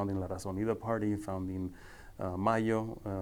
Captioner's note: speaking foreign language